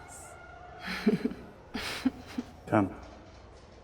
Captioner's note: laughter